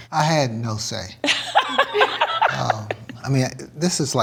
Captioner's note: laughs